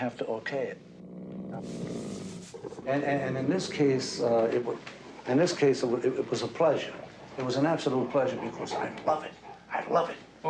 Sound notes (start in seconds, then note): 1.0 growling; 4.4 snarling